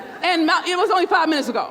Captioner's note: crowd laughs